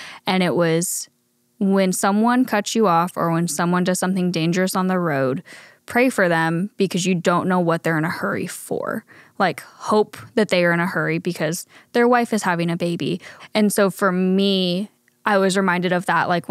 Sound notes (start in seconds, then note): none